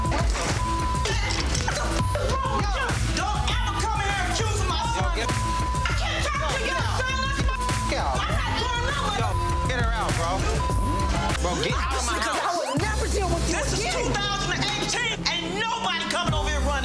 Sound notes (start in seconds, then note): 6.2 beep; 7.9 beep